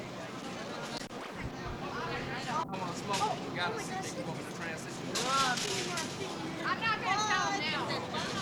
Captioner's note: crowd noise, farewells